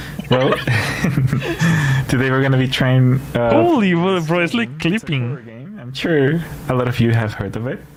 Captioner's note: laughter